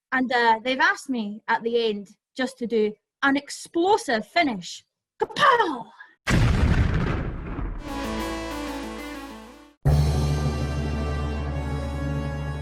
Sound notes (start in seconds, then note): 6.2 sound of explosion; 7.8 upbeat music